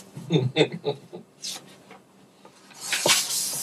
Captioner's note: chuckles